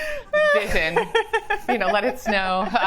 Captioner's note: laughs